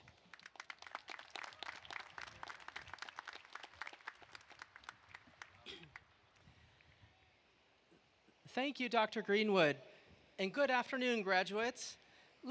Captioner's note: applause